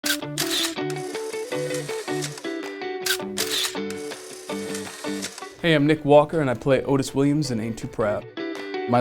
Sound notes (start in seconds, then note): 0.1 camera clicking; 0.1 upbeat music